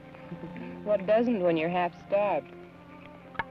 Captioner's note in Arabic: يضحك